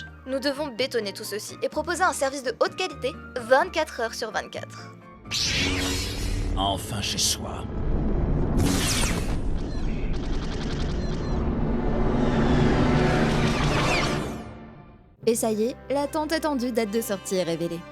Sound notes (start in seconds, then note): 5.2 lightsaber noise; 8.4 lightsaber noise; 10.7 distant sounds of laser combat